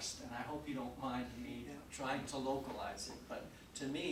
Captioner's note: none